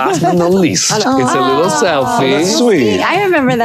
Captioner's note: group gasping